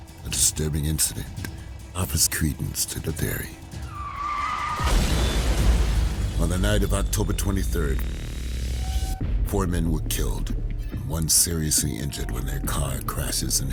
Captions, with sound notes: - A disturbing incident offers credence to the theory. (tires screeching) (car crashing) On the night of October 23rd, four men were killed and one seriously injured when their car crashes